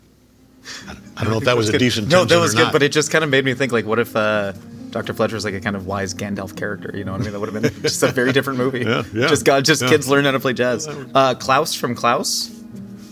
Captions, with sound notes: I don't know if that was a decent tension or not. - No, that was good, but it just kind of made me think, like, what if Dr. Fletcher was like a kind of wise Gandalf character, you know what I mean? (J.K. chuckling) That would've been just a very different movie. - Yeah, yeah, yeah. - Just kids learn how to play jazz. Klaus from "Klaus?"